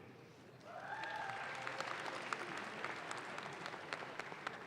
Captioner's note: audience claps